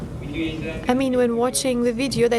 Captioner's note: speaking foreign language